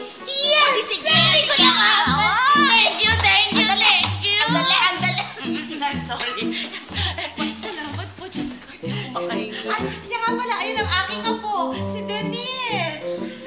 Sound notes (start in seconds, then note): 4.4 coughs; 4.9 chuckles